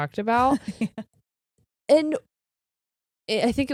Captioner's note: laughing